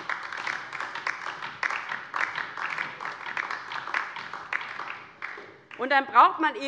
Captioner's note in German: Beifall DIE LINKE